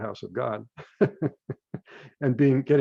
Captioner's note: laughs